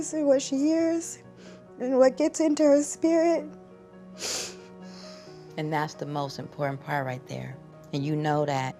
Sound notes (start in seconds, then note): 4.3 sobs